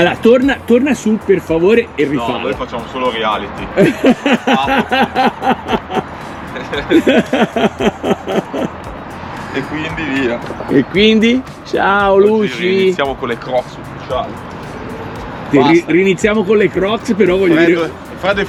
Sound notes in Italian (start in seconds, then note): 6.8 Risate